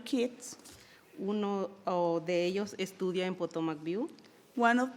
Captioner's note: speaking in foreign language